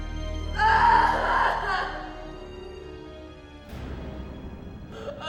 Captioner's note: Elizabeth crying